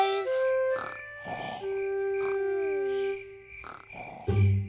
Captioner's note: george snoring